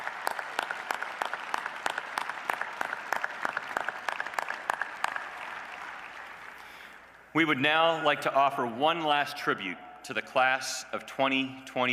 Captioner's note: applause